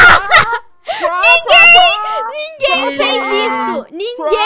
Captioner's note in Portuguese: rindo